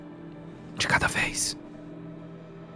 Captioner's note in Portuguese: sussurrando